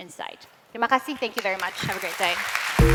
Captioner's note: non-english; applause